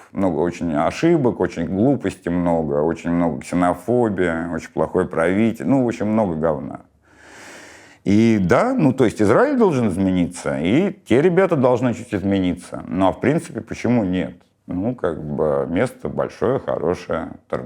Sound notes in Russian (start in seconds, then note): none